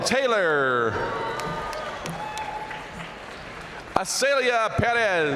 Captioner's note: audience cheering and applauding